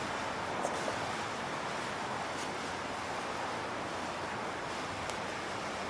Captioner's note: traffic humming